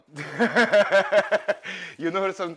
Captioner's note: laughs